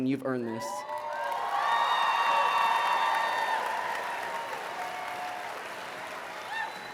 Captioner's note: cheers and applause